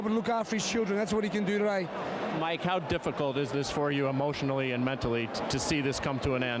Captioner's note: applause